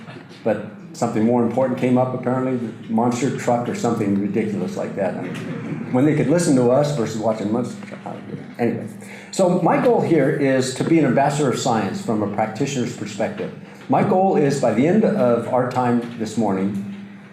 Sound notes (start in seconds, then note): 5.1 audience laughter